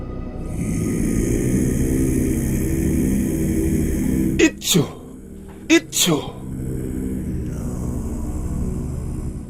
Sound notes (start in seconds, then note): 4.1 chanting